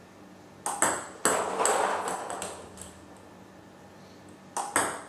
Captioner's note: ball ping pong hitting continues